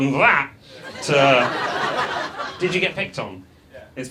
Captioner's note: audience laughs